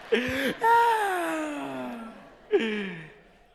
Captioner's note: maniacal laugh